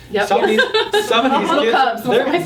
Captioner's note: group laughing